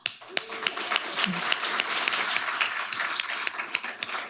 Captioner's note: audience applauding